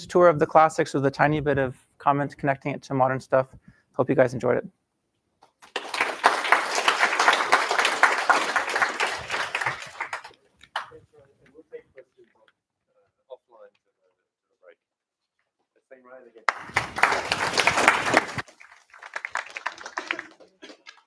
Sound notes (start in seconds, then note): 5.6 applause